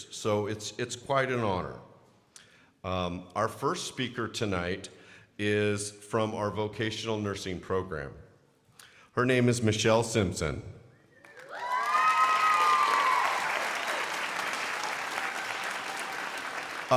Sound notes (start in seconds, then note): 11.2 crowd cheering and applauding